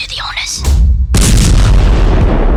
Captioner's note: punch